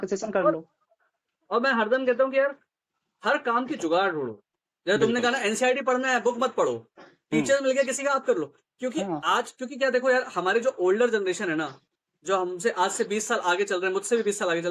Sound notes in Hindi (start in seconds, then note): 7.3 गला साफ़ करने की आवाज़